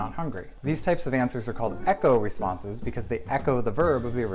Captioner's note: echo responses